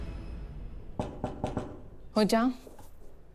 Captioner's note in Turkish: Kapıya Vuruyor